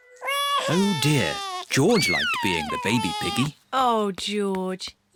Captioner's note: bawls